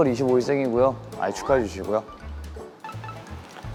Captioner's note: scratching